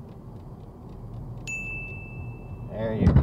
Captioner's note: ding